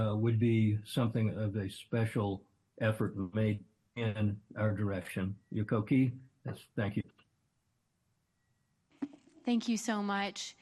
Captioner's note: foreign language